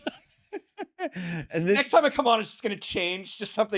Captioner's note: laughing